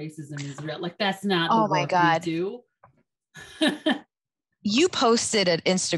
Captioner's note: chuckles